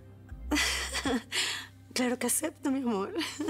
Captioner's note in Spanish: risas